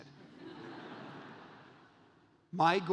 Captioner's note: audience laughs